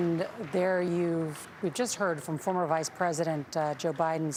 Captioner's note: applause